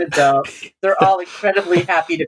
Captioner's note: laughter